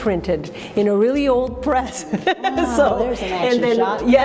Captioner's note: chuckles